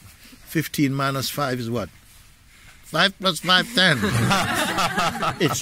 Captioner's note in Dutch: gelach